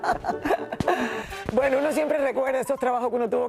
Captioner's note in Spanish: ríen